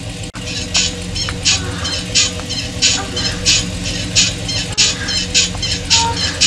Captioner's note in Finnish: Epätasaista käyntiääntä ja hytin resonointia